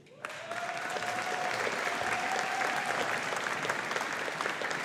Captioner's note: audience applauding